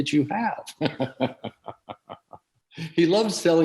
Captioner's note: laughs